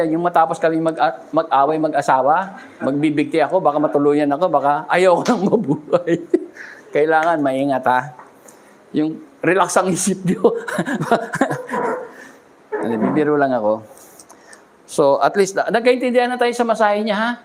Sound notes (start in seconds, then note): 10.2 laughter